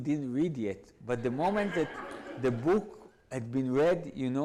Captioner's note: audience laughs